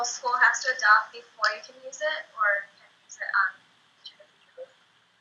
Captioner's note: speaks faintly